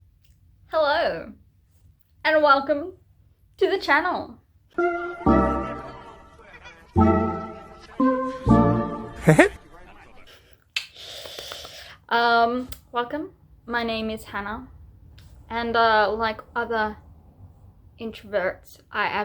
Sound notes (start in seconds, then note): 4.7 intro Music; 10.8 welcoming claps